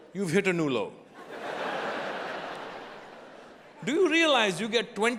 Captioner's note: audience laughing